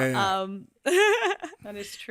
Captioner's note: laughs